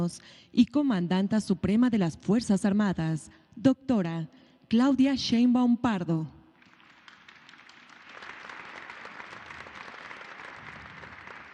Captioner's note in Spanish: aplausos